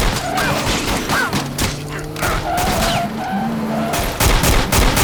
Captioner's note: tires squealing; gunfire